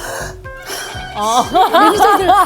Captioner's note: deep sigh